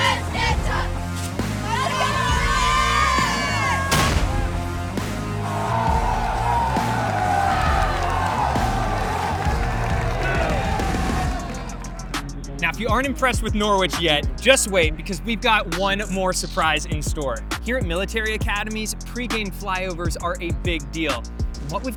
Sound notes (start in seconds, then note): 0.1 cheerleaders chanting and yelling; 3.8 cannon fire booming; 5.6 cadets yelling; 8.9 upbeat music continues